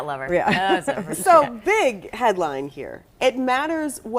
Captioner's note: laughter